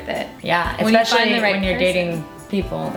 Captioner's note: talks quietly